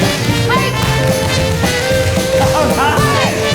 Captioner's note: shoes tapping